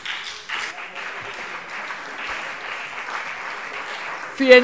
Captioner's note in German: Beifall CDU und BÜNDNIS 90/DIE GRÜNEN